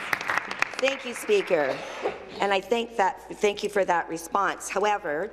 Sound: applause

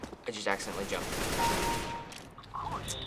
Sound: firing; kill chime

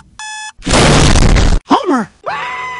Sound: alarm; door smashes open; Homer Screams

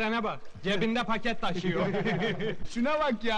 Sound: laughing

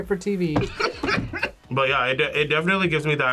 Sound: laughs

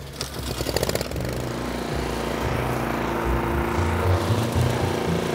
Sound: mower engine revving

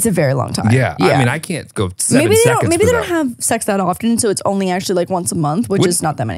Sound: team imitate a heart machine

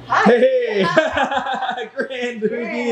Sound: man laughing

